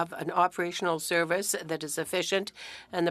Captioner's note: speaking French